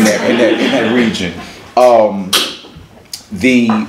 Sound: laughs

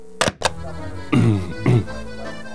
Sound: clears throat

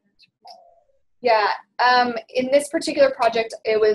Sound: voiceover

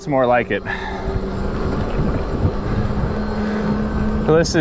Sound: bike motor revving

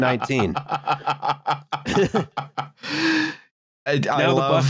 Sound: laughs

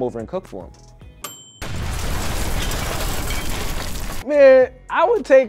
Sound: timer dinging; explosion

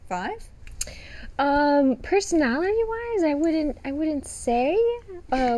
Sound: smacks lips

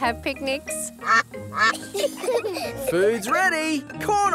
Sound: quacking; children giggle

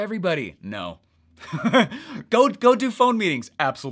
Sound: laughing

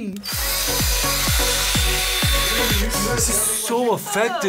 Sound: drill whirring; bright energetic music

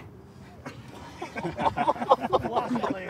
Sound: laughter

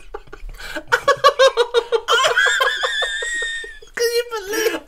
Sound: highly Disturbing Laughter

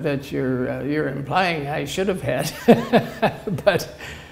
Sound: laughter

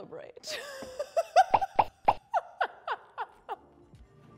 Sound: laughs

